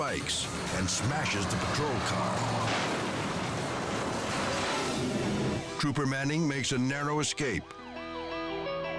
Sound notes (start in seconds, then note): 2.2 car crashing; 2.2 dramatic music